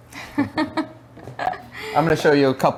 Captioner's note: laughs